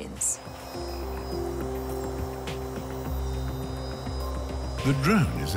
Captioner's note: drone buzzing